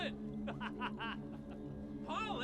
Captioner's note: laughing